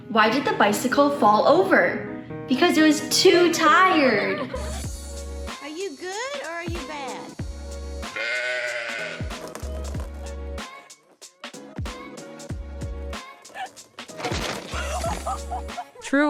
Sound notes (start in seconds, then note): 4.0 children laughing; 8.1 sheep bleating; 9.5 fun music; 14.1 fence cracking; 14.7 woman gasping and laughing; 14.7 woman laughing